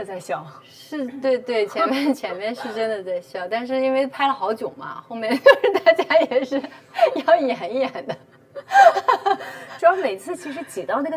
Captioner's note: holding back laughter